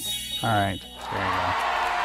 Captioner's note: cheering